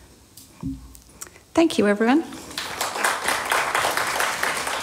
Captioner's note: applause